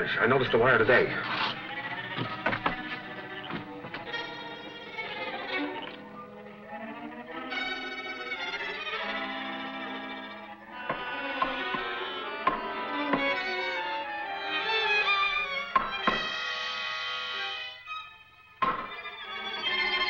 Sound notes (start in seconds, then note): 12.6 knocking